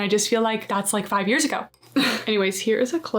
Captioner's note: chuckles